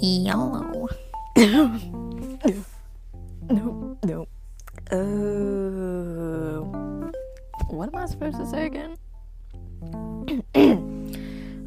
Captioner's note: coughs 'n dies